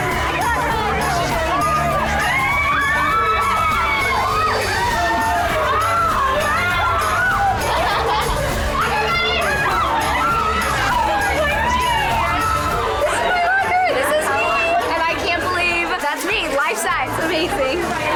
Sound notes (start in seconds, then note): 3.9 upbeat music; 3.9 women cheering